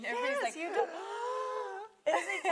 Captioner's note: both gasp